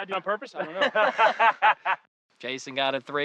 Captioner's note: laughing